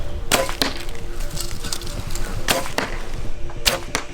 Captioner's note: arrows whooshing